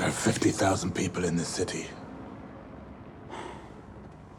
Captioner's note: none